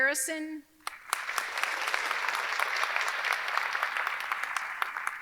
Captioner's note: audience clapping